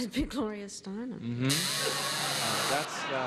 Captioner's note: buzzer sounds